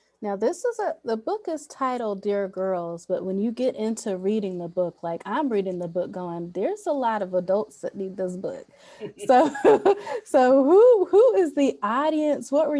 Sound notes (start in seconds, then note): 9.0 laughs